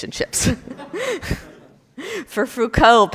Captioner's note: all laugh